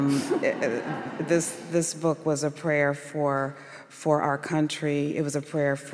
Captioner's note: laughter